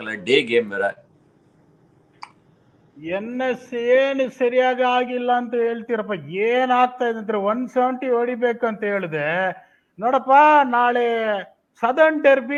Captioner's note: speaks in Kannada